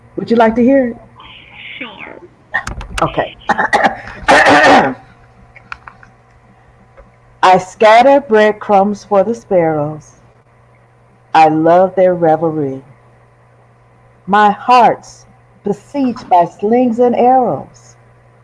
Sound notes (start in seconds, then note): 3.4 clearing throat